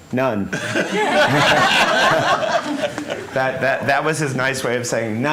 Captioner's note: laughter